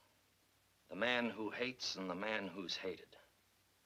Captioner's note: none